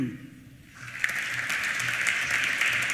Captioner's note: applause